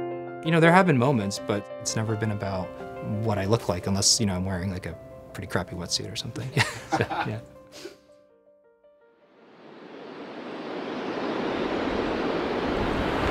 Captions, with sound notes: There have been moments, but it's never been about what I look like, unless I'm wearing a pretty crappy wetsuit or something. (laughing) (waves whooshing)